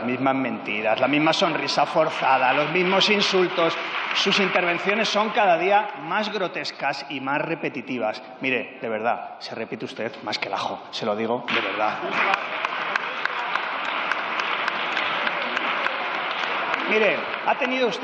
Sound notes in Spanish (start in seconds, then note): 1.2 Aplausos; 15.2 Aplausos.-Rumores